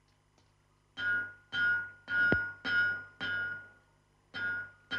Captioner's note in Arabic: صوت المطرقة